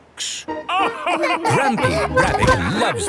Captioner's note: all laugh